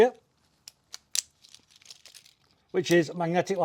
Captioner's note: buckle rattling